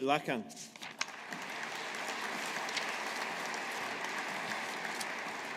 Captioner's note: audience applauding